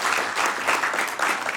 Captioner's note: applause